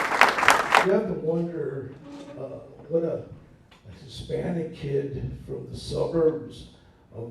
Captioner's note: applause